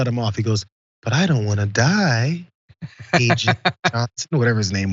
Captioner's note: laugh